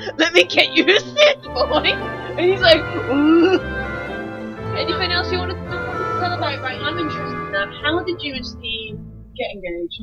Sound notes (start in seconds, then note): 2.9 confused Noise